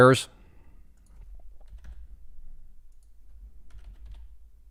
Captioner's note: keyboard chucking